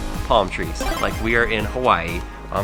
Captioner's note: power up sound